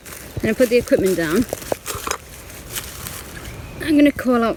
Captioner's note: leaves rustling